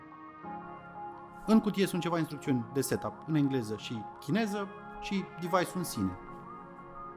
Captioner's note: english & chinese